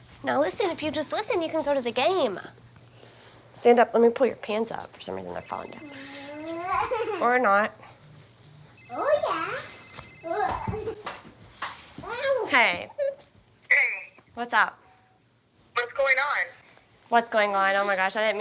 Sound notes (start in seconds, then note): 5.3 phone rings; 6.4 laughs; 8.7 phone rings